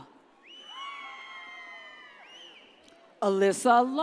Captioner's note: audience cheers